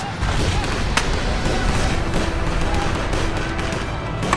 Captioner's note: explosion bangs